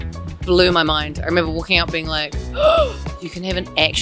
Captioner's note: gasps